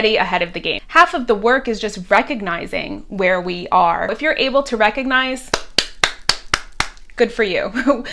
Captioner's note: claps hands